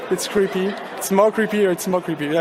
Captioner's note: audience laughing